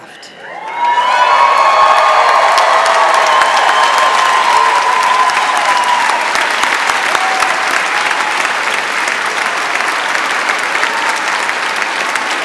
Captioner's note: applause